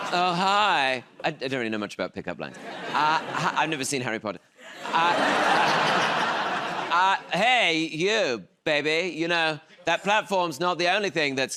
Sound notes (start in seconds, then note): 4.6 laughter